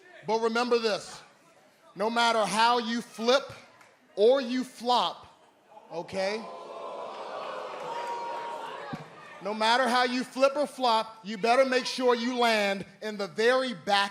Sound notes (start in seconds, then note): 5.8 crowd cheering